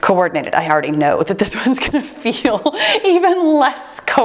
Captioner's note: chuckles